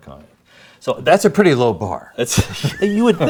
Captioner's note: laughs